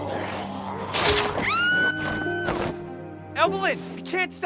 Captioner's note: screaming